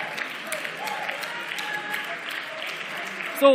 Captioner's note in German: Beifall